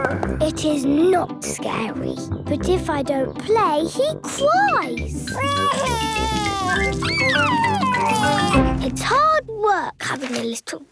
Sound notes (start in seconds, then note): 5.4 crying